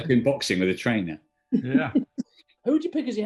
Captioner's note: giggling